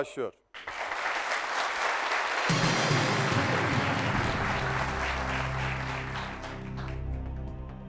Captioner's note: applause